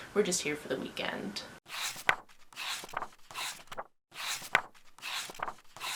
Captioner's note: pages turning